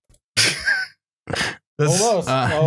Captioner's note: laughs briefly